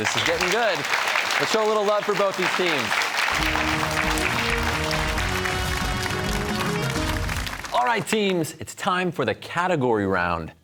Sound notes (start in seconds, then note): 3.2 cheers and applause